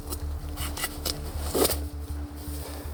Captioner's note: ripping